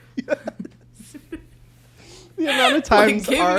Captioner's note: both laugh